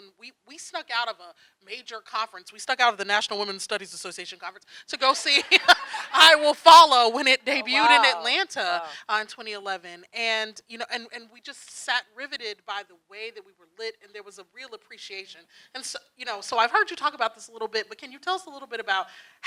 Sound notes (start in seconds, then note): 7.4 laughing